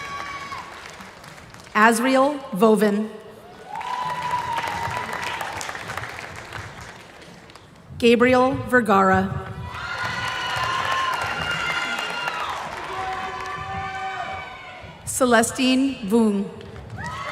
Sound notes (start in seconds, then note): 13.1 applause